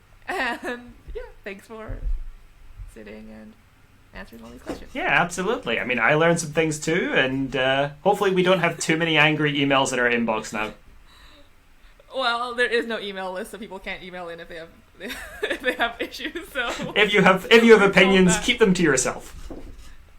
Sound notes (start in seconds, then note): 16.5 laughter